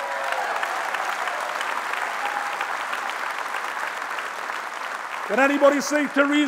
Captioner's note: applause